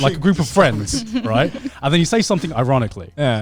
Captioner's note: laughing